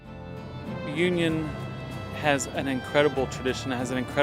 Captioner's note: voiceover